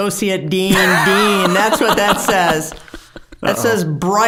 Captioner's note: both laughing